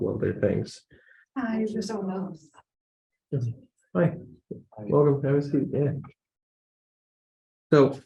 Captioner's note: audience mumble